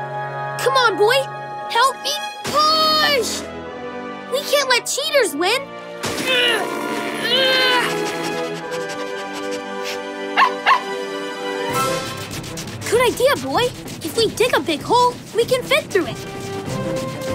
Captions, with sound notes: Come on, boy, help me push! We can't let cheaters win. [grunting] [barking] Good idea boy, If we dig a big hole, we can fit through it.